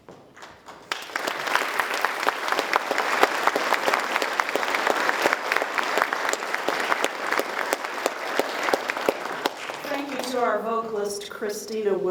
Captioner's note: applause